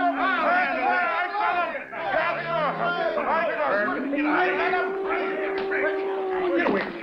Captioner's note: officers yelling; buffaloes moaning